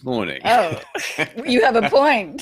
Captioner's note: laughs